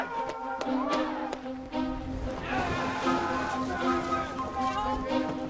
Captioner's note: cheering, clapping